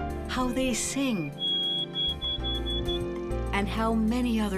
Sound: bird singing

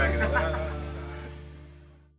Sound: chuckling

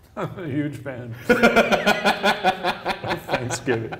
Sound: laughing

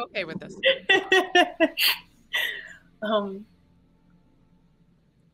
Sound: laughing

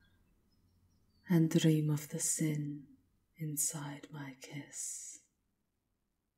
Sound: her voice echoes, as your vision fades

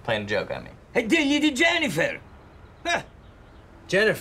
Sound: foreign language

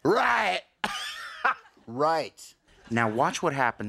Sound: laughs

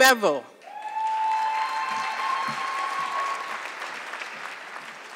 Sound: audience clapping

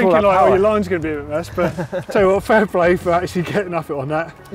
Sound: laughing

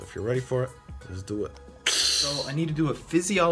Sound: malfunctioned pipe noise

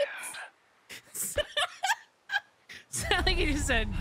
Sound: laughter

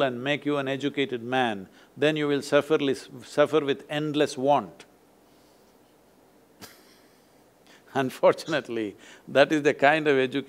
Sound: laughs

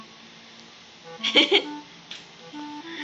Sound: laugh

